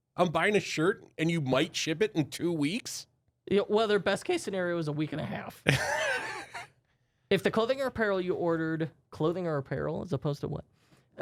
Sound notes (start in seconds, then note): 5.7 softly chuckles